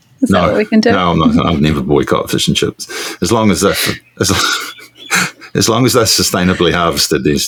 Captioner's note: laughing